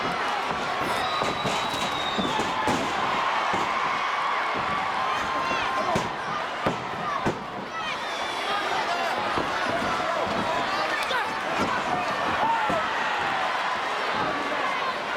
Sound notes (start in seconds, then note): 3.3 audience cheers; 7.6 audience chanting